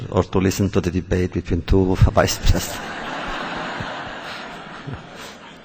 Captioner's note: laughter